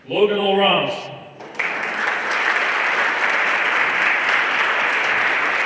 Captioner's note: everyone applauding